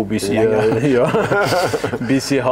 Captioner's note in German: lacht